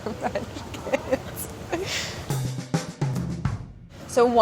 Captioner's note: laughing